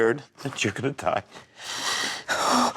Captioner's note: sobbing